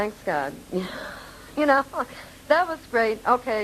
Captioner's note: laughing